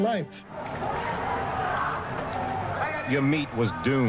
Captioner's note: crowds clamoring